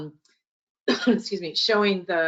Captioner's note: coughs